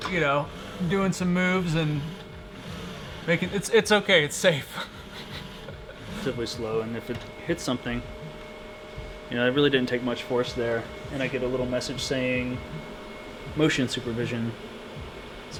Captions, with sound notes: You know, doing some moves and... It's okay. It's safe. (laughs) Typically slow, and if it hits something, you know, it really didn't take much force there. And I get a little message saying, "motion supervision".